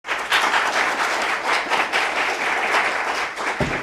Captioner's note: clapping